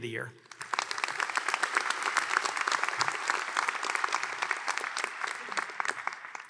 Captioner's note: applause